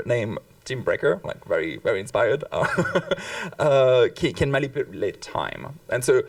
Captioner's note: chuckles